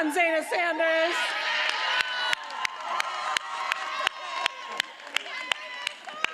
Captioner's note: attendees applauding and cheering